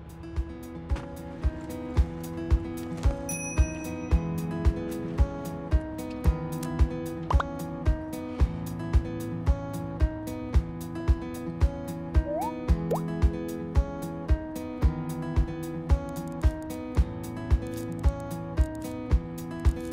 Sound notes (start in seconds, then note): 2.7 cell phone chiming; 8.3 sweet music